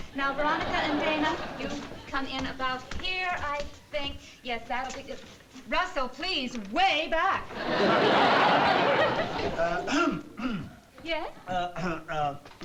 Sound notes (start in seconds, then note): 9.8 clears throat